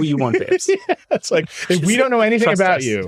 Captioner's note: laughing